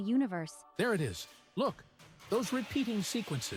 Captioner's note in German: Geräusch eines Laborgeräts